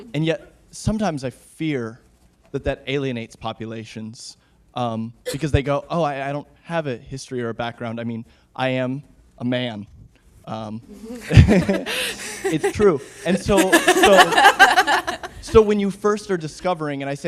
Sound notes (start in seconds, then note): 11.2 audience laughing